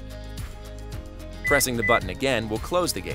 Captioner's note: electronic beeps